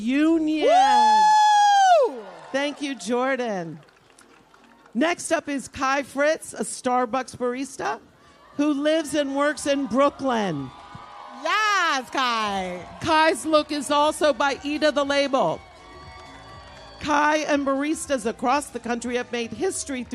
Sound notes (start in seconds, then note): 6.3 applause